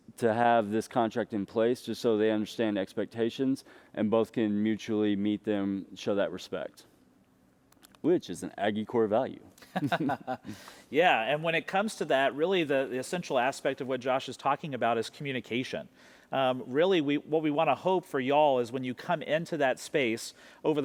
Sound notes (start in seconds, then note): 9.6 laughing